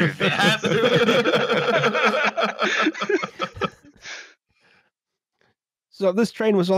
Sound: laughter

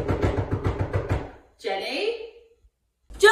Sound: knocks on door; shouts

